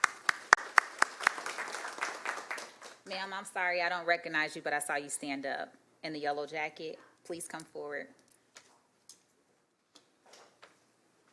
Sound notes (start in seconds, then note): 2.9 applause